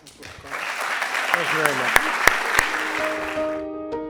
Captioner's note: applause